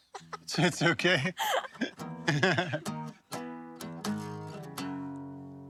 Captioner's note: laughs